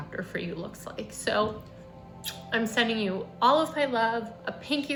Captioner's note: kisses